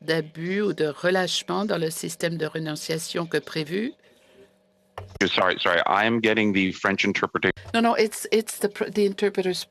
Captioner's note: speaking French